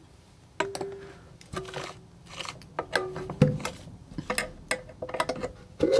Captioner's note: scratching